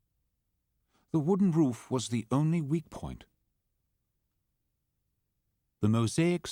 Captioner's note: voiceover